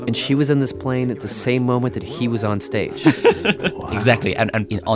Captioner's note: laughs